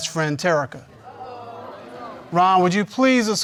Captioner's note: audience mumbles